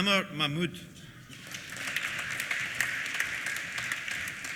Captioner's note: applause